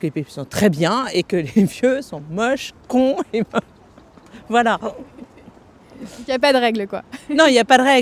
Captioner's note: laughter